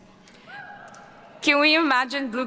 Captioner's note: attendees cheering